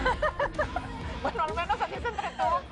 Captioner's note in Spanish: Risas